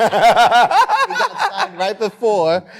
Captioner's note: laughter